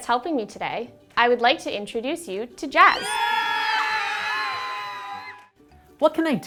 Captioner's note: cheering